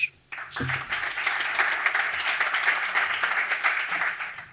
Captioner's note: audience applauds